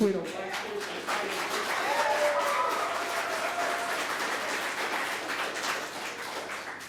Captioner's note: audience applauding; cheering